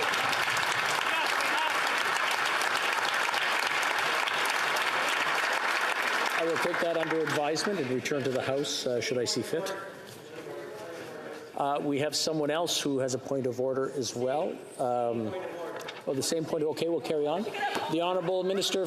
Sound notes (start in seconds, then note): 9.0 applause